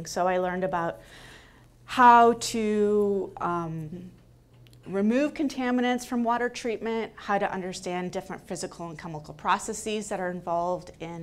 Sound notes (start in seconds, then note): none